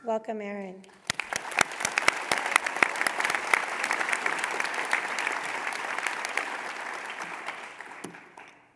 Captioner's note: applause